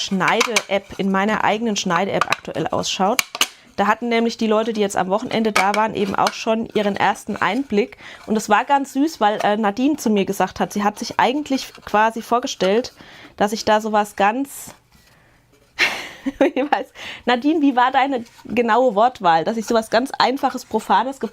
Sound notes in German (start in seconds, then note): 15.8 gelächter